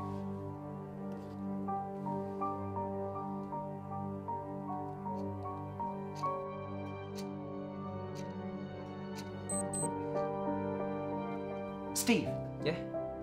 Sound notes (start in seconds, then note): 6.3 ticking Clock; 9.5 electronic Watch Beep